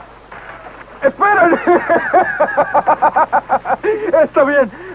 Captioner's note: laughing